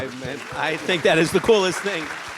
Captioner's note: audience claps